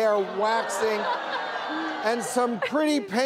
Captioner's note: audience groaning